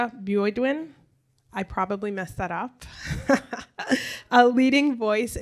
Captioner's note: chuckles